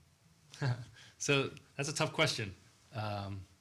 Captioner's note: chuckles